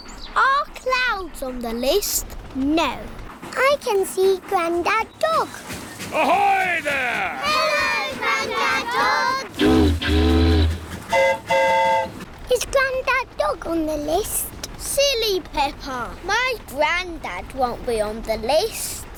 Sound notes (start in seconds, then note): 9.5 train horn toots; 9.5 boat horn honks